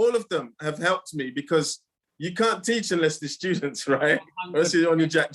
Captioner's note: laughing